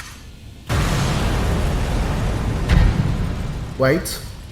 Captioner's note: explosions from afar